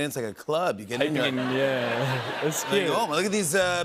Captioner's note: laughter